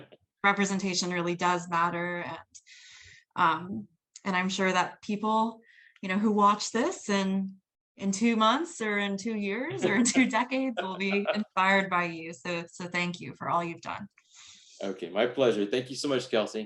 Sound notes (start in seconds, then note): 9.7 laughs